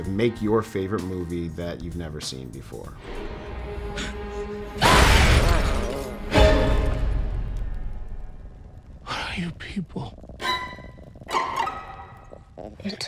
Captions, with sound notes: of make your favorite movie that you've never seen before. (dramatic music) (screaming) - What are you people?